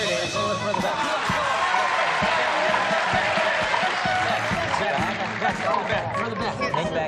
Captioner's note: applause, cheering